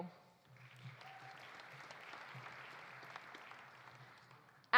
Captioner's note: audience applauding